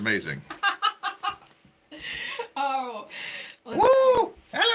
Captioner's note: laughing